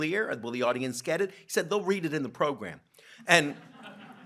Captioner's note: laughter